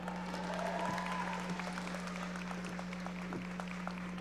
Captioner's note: audience applauding